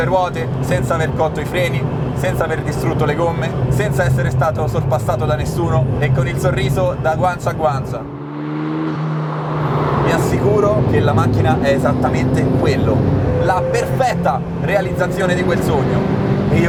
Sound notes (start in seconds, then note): 8.5 engine sound